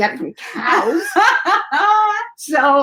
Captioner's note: laughter